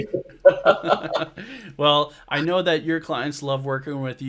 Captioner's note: laughs